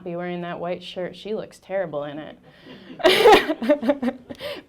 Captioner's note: audience laughing; laughing